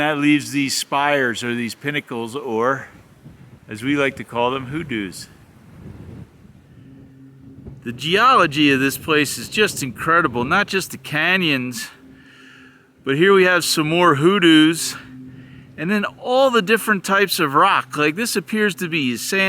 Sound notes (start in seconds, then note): 5.8 wind noise